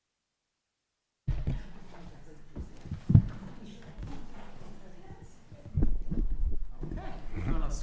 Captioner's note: microphone feedback